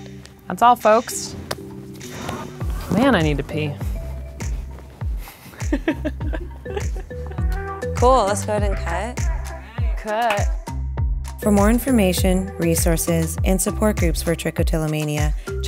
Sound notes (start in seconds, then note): 5.3 laughing